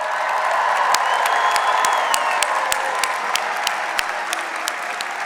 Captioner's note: audience cheers and applauds; audience member whistles